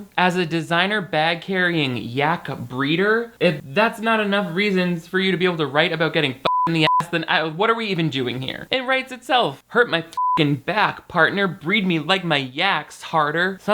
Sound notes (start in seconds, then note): 6.4 beep; 10.1 beep